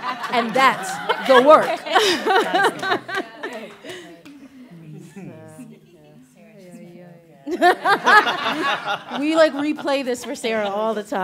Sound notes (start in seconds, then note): 1.8 laughter, chatter and laughter; 10.9 laughs